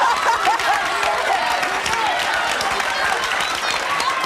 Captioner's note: audience laughing; clapping